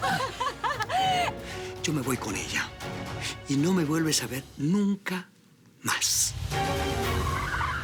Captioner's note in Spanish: Risas